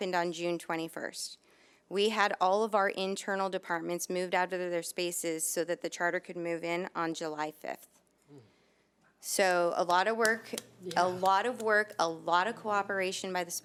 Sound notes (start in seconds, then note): none